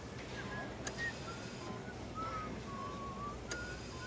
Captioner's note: nurse whistling